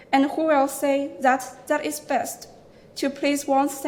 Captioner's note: none